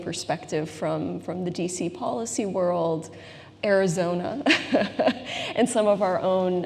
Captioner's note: laughs